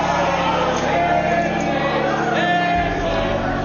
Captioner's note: crowd chanting "Nancy"; crowd shouting on video